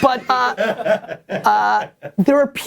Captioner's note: people laughing